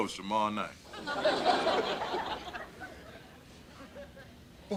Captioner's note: audience laughter